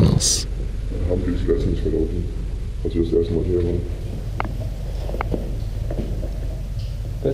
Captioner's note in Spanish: distorsionado su voz